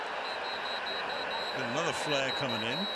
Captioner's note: whistle